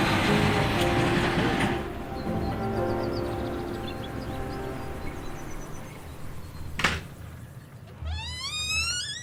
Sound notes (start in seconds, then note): 4.5 upbeat music; 7.4 birds chirping